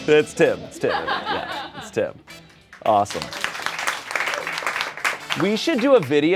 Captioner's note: audience applauds